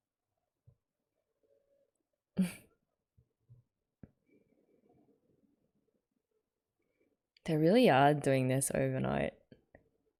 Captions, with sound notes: [chuckles] They really are doing this overnight.